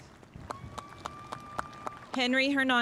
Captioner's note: spectators applauding